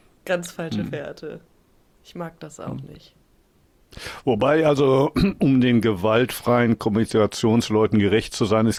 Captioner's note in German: räuspern